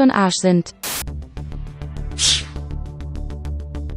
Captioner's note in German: Rauschen, sausende Geräusche; Gespannte Musik